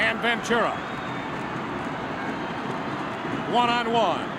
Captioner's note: crowd stomping feet